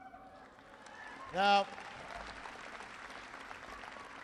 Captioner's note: applause